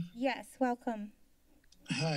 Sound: silence

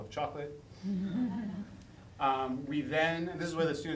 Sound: laughing

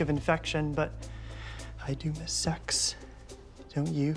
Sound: quietly

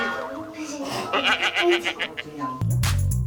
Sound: failed not to laugh

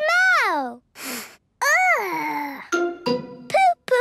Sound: sniffs

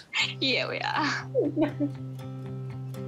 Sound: laughs; both laugh

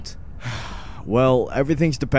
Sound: sigh

